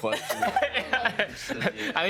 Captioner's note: laughing